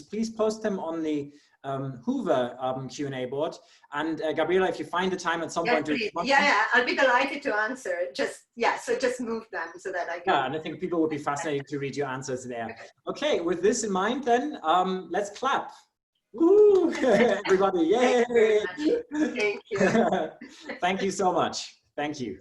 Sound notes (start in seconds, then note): 16.7 applause